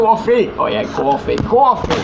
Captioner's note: in New York Accent